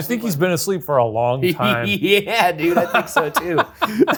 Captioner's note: laughs